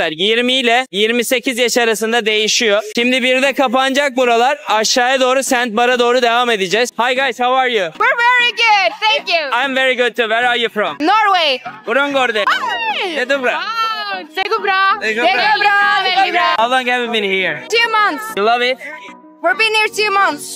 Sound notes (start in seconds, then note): 11.8 speaking Norwegian